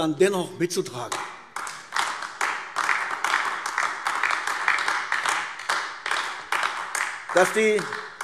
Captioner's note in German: Beifall AfD